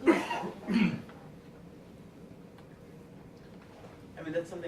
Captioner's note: background coughing